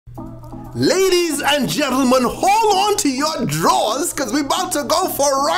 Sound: voiceover

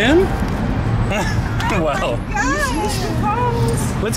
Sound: laughter

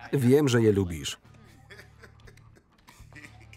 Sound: laughing

